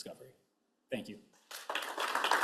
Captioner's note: applause